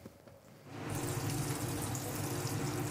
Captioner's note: sizzling